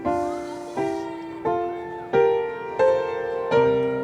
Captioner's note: audience shouting